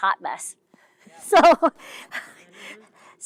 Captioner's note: laughs